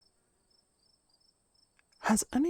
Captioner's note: crickets